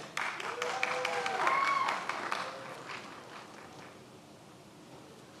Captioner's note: many applauding